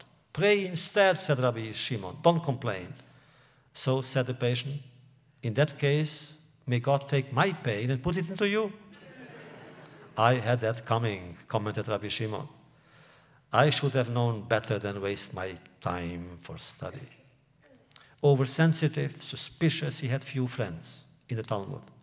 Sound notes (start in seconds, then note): 8.9 laughter